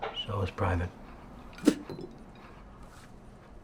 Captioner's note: spits